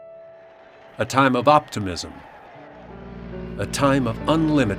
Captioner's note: crowd cheering